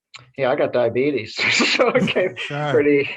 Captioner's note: laughs